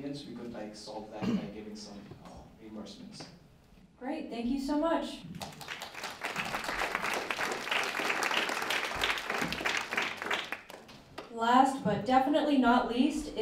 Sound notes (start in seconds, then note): 5.4 applause